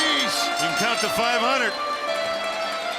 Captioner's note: bell ringing